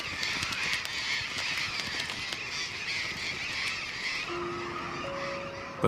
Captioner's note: parrots squawking